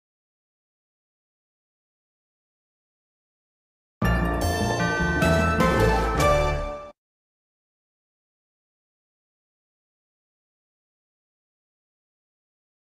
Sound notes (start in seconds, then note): 4.0 upbeat orchestral music; 7.4 silence